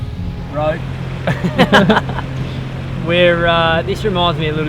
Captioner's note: both laughing